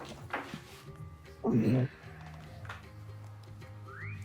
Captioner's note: sighing